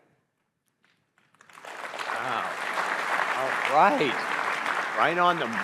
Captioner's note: audience applauding